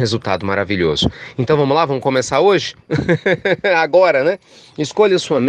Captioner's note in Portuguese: risadas